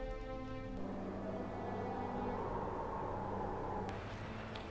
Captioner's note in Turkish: Rüzgâr sesi